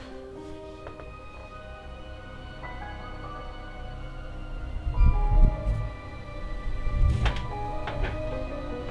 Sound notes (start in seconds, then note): 5.2 ethereal, bassy sounds